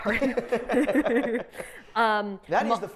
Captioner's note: giggling loudly